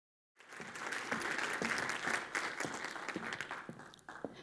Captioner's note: audience clapping